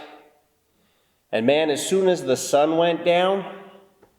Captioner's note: none